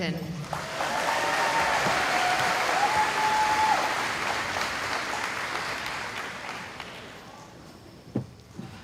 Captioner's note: cheering